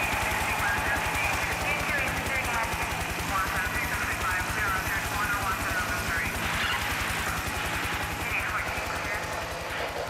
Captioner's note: crowd cheering